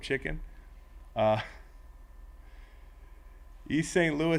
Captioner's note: laugh